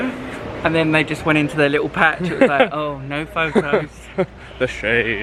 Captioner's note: laughs